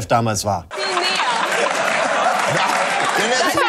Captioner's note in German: Lautes Lachen, Durcheinanderreden